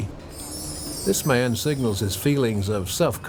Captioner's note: bells chiming